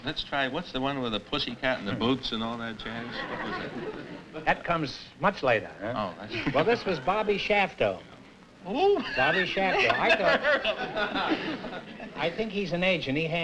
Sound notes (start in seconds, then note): 9.0 laughter